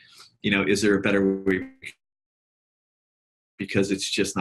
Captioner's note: audio glitches